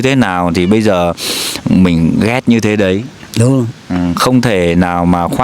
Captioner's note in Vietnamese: khịt mũi